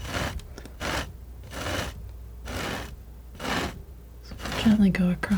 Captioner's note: scratching